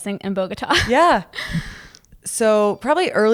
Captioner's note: chuckle